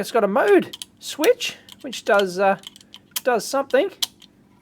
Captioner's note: clicks switch